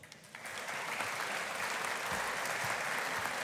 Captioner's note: audience applauding